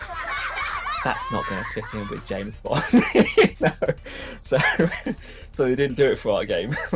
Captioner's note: laughs